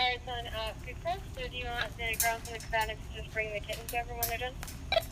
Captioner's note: radio